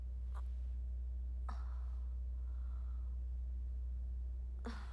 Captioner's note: groans lightly